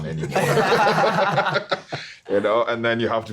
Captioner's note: everyone laughing